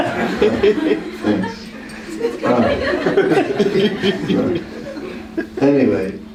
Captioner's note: laughter